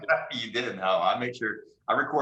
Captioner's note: laughing